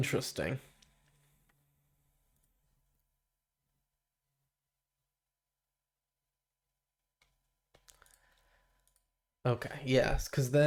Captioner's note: silence